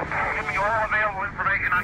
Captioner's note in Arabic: صوت طقطقة ثابت في الراديو